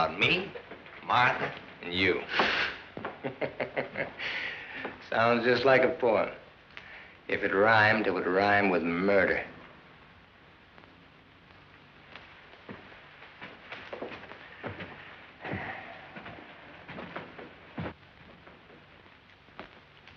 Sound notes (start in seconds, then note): 3.0 laughs